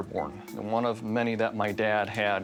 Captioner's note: none